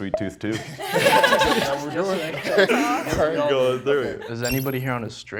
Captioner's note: contestants laugh and chatter